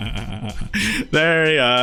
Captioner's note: laughing